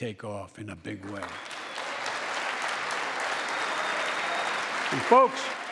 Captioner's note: applause